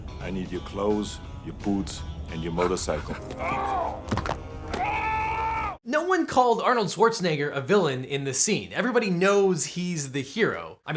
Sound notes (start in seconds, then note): 3.3 groans and bones crunch; 4.7 screams